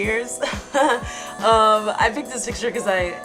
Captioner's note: laughing